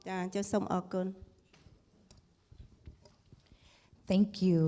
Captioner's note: speaking foreign language